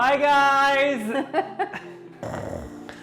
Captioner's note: chuckling; snoring